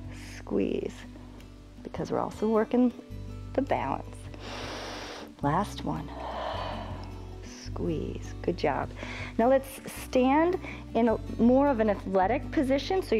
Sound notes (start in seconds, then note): 6.0 exhales; 6.1 inhales